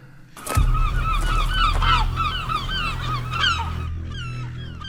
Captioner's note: gulls squawking